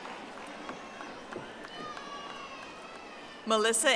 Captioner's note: audience applauding